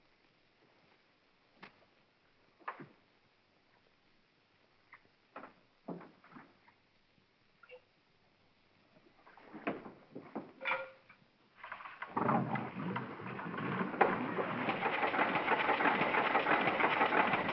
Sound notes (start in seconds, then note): 2.5 switch clicks; 10.6 stick clatters; 11.8 row boat clatters; 14.7 engine whirring & clattering